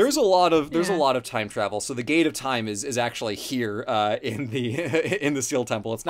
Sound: laughs

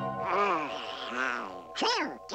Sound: groans

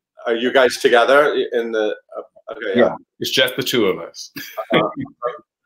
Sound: laughs

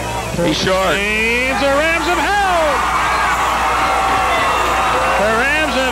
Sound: crowd cheers

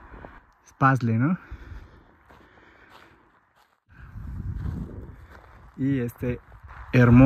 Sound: breath

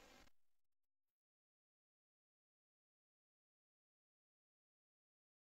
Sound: silence

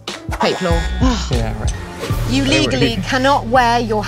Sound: sighs

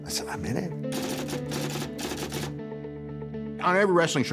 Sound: typewriter clacking

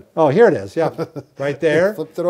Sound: laughs

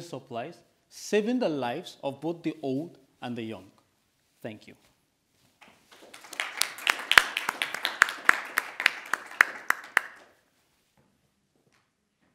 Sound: audience applauding

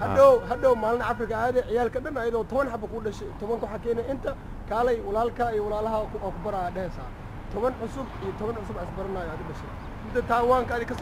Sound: somali

